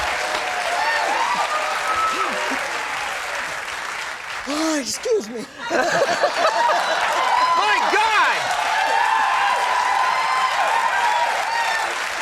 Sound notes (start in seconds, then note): 0.2 audience laughing and clapping; 4.2 yawning; 6.0 laughing; 9.0 audience laughing